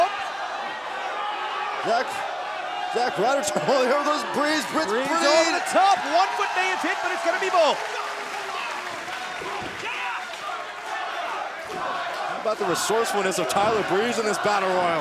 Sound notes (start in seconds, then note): 9.2 cheers & applause; 12.3 fans chanting